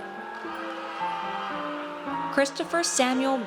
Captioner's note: audience cheers